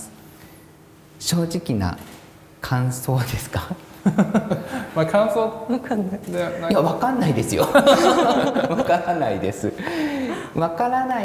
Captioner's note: laugh